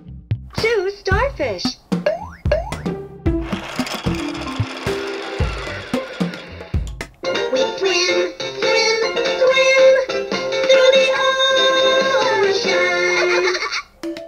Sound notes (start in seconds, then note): 2.0 spring boings; 3.4 toy buzzing; 12.7 laughs